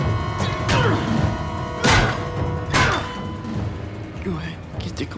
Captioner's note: ghoul scoffs; Paul grunts; head thuds